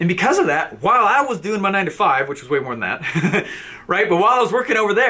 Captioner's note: laughs